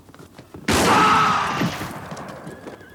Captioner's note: gun fires; town member screams; horse neighs